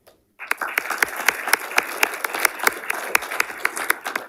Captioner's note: audience applauding